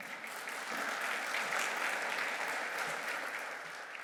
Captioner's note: audience clapping